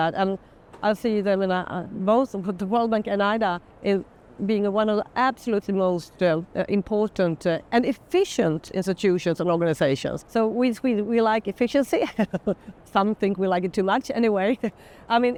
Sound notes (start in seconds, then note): 12.0 chuckling